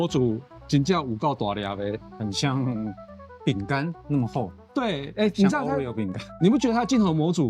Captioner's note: laughs